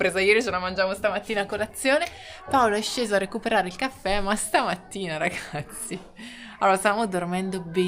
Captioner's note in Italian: risate